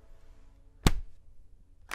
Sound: laptop clicks shut

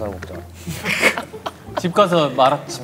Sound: laughing

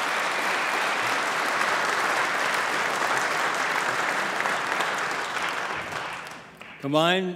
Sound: applause

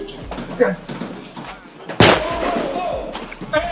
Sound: gun firing

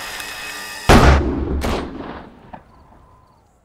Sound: gunshots

